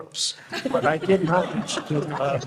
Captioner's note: panel laughing